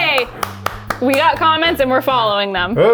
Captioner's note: clapping